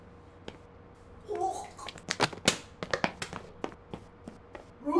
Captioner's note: Nicole retching